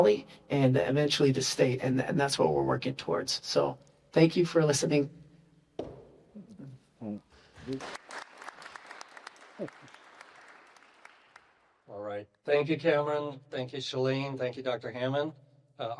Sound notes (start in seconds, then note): 7.5 applause